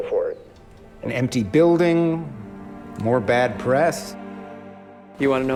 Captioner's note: voiceover